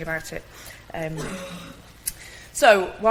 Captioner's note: audience member coughing